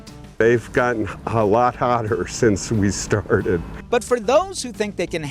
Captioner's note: laughing